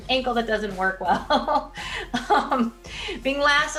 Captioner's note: laughing